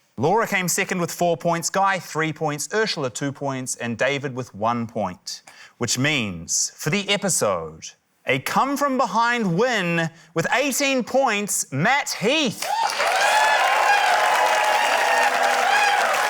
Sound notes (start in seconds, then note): 12.6 cheering, applause